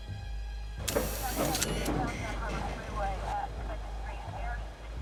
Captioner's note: police radio chattering